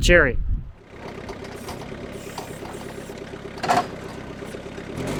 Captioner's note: engine rumbling